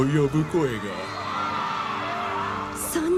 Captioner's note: townsfolk screaming